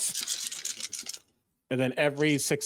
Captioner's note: dice rattling